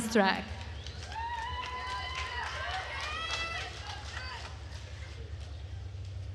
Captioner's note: attendees cheering and applauding